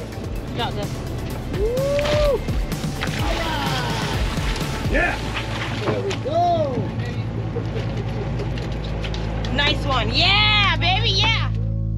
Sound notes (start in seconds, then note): 1.5 whooping; 2.8 fish splashing